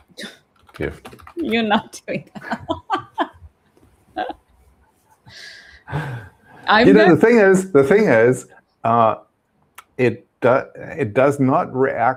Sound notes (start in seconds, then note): 2.4 laughs